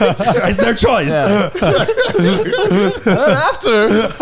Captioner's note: all laughing